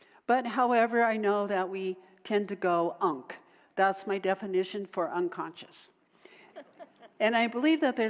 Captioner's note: audience laughter